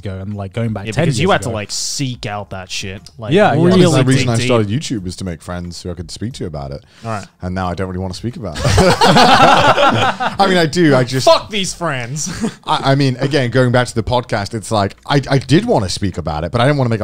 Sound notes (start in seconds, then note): 8.5 all laughing